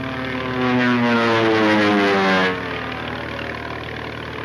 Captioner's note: plane engine roars